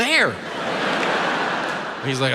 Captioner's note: audience laughs